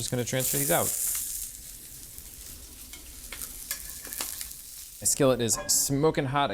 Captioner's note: skillet sizzling